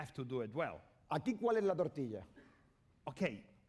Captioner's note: speaking spanish